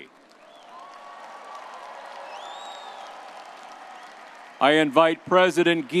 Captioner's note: everyone applauding and cheering